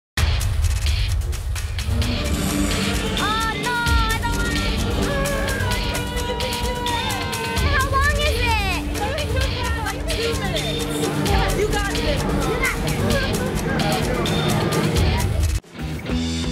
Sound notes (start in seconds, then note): 0.9 dramatic music; 5.0 screams